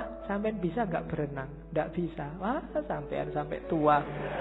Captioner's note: 🤣🤣 student laughs